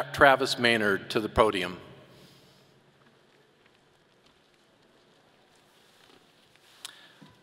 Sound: none

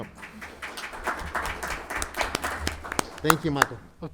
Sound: board members clapping

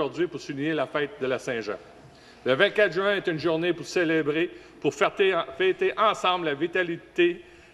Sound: speaking French

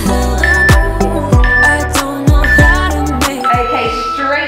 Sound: alarm beeping

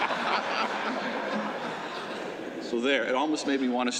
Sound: laughter

